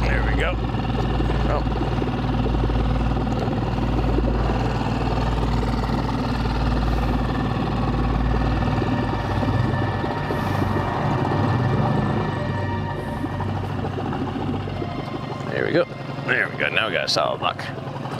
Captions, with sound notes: There we go, oh. (chilling music) (motor rustling continuing) There we go, there we go, now we got a solid rock.